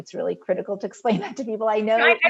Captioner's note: chuckles